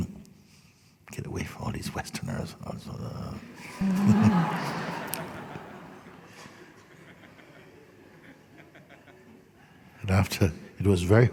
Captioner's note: laughter